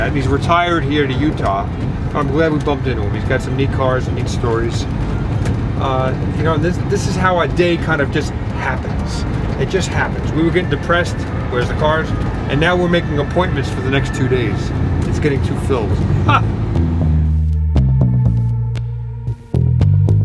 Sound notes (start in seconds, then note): 16.2 laughs; 17.1 soft guitar music